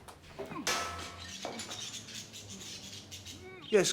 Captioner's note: glass shattering